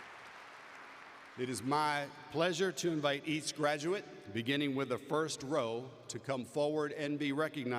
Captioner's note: applause